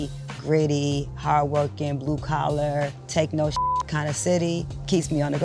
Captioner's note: beep